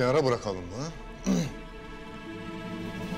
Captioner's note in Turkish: Vasilius boğaz temizleme sesi